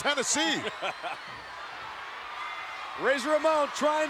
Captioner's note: laughing